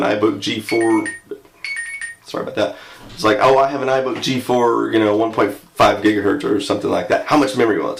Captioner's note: alarm beeping